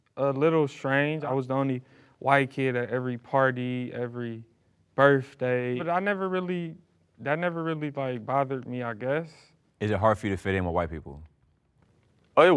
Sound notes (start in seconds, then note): none